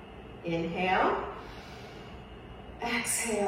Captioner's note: exhales; inhales